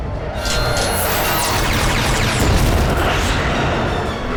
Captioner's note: explosion; gunfire